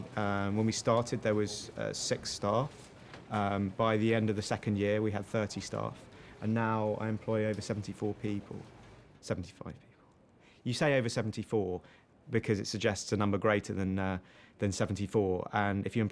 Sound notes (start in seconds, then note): none